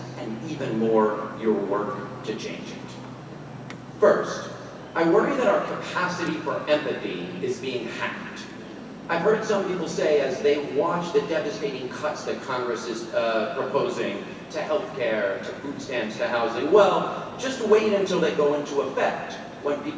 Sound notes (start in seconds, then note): none